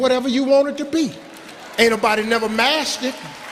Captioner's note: applauding